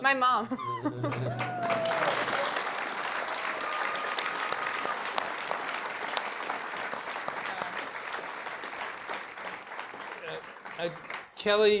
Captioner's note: applause